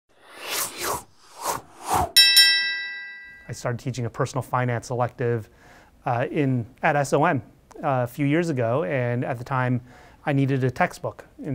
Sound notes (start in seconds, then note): 0.2 texts whooshing; 2.2 bell dings